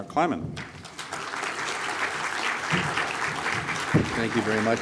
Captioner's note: applause